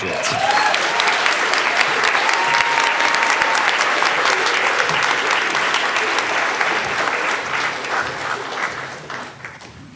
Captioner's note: all applauding